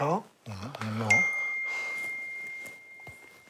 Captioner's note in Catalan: mòbil: ping!